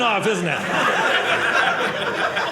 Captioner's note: audience laughing